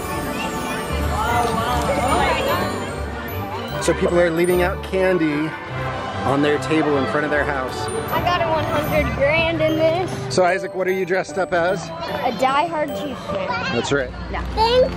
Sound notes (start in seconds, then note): 0.2 enchanting music; 2.7 excited chatter